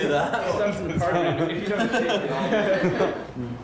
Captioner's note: everyone laughs